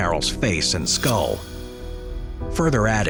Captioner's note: transition whooshing